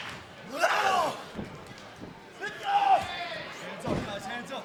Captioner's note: wrestlers shouting